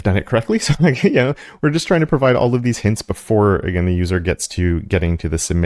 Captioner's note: laugh